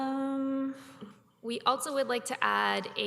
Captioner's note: none